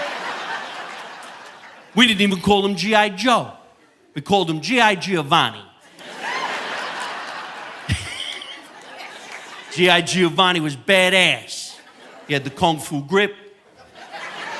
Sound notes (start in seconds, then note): 0.0 audience laughing; 5.8 audience laughing; 7.8 chuckles